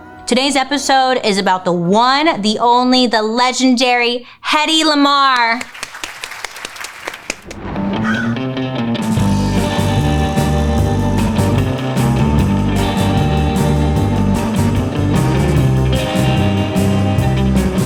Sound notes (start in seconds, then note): 5.3 people clapping; 7.7 quirky music; 8.0 crow cawing